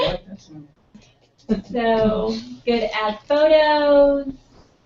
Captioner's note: laugh